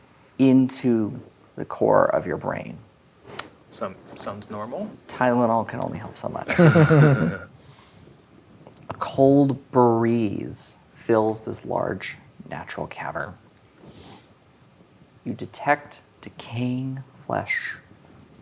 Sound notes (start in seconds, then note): 6.4 players laughing